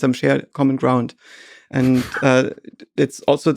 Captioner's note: Lex laughs